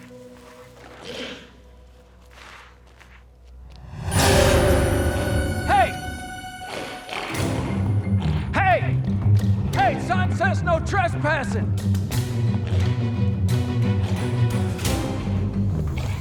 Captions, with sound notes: (footsteps shuffling) (intense music) - Hey! Hey! Hey, son. Says no trespassing. (dramatic music)